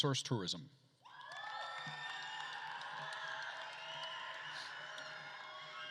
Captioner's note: attendees cheering and applauding